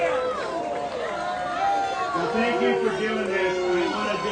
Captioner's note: booing